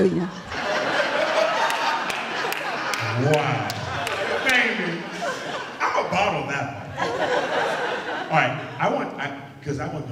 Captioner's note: laughter